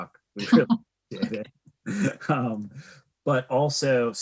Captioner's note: both laughing